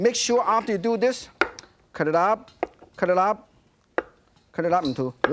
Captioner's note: chopping